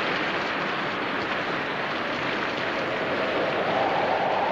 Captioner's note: wind blowing